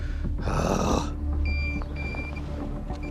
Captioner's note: beeping